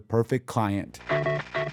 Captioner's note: soundbite of archived recording